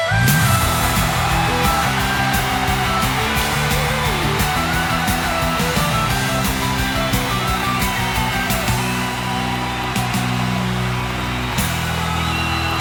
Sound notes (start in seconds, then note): 1.7 cheering citizens